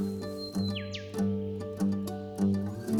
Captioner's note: birds calling; acoustic music plays